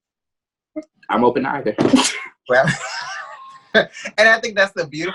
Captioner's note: both laughing